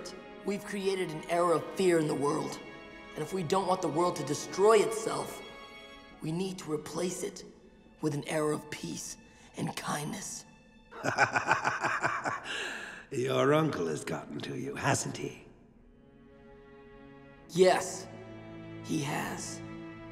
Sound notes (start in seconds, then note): 10.9 laughing